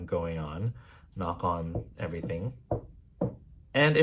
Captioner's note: knock knock